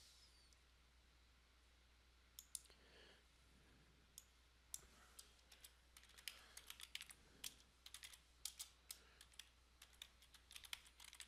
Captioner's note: sound of typing